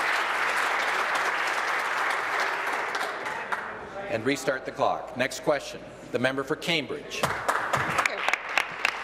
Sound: applause

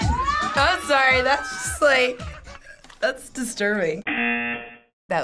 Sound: funky Latin music; buzzer

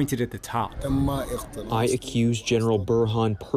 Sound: through translator

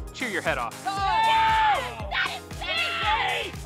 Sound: team cheers

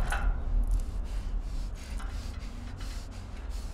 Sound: ominous music; heavy breathing

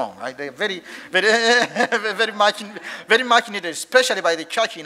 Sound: chuckles

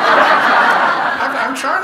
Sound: audience laughing

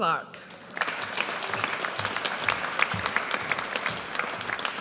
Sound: audience applauds

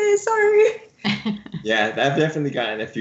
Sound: laughs

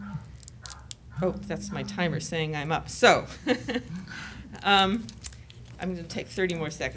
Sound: buzzing

